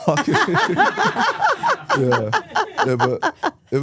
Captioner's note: laughing